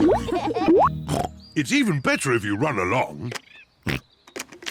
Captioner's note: all laugh; oinks; oinks